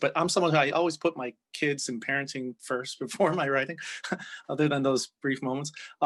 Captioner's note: chuckles